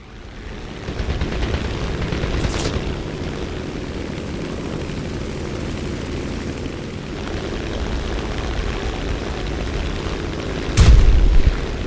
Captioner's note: aircraft Engines ,Gunfire, Flying Sounds